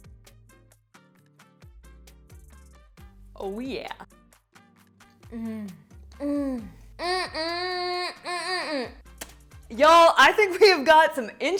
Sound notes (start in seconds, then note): 6.2 moaning